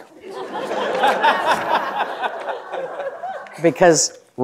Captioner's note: audience laughing